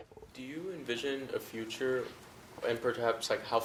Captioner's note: voiceover